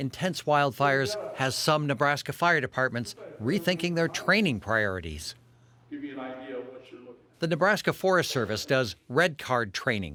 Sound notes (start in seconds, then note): 6.6 speaking faintly